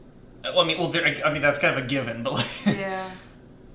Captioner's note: stuttering